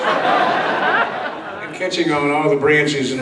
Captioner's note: audience laughs